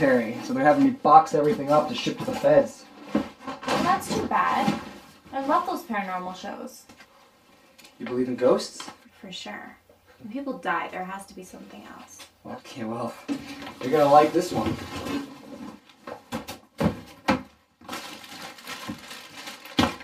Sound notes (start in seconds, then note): 16.8 thud; 17.8 rustling